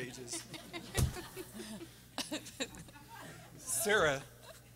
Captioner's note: audience laughing